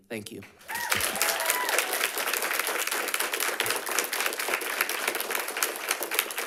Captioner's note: audience applauding and cheering